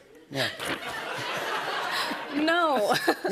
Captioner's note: laughter